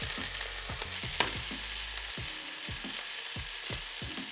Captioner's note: sizzling sound